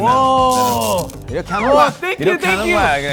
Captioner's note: zap